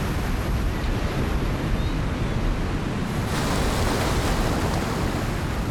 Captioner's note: birds calling